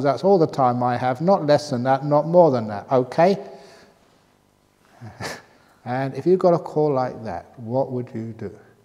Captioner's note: laughs